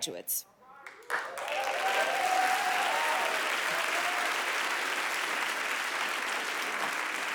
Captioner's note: audience applauding; audience cheering